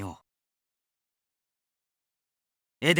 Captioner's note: silence